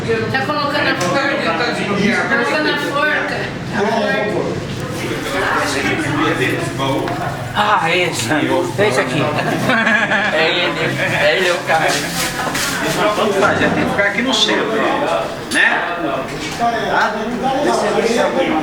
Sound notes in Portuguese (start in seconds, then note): 9.1 risos